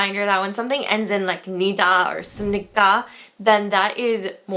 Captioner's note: foreign language